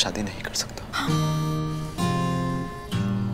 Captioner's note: Gauravi gasps